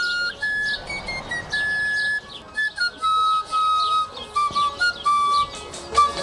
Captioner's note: bright music continues; chickens squawking; bright piccolo music